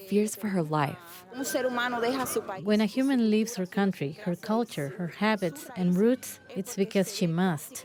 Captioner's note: through translator